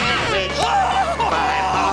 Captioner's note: screaming